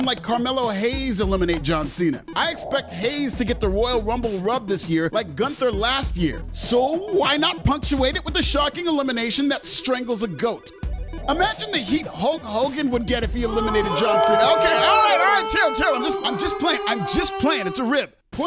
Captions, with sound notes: like Carmelo Hayes eliminate John Cena. I expect Hayes to get the Royal Rumble Rub, Like GUNTHER last year. SO why not punctuate it with a shocking elimination that strangles a GOAT. Imagine the heat Hulk Hogan would get if he eliminated John Cena (booo!) Okay, chill, chill I’m just playing, It’s a rib!